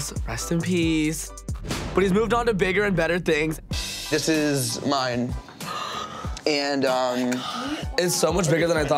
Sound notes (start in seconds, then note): 7.1 sighs